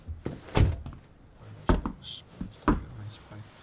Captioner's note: knocking